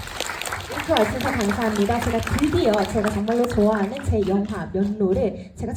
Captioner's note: crowd applause; speaks in foreign language